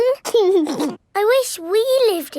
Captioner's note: giggling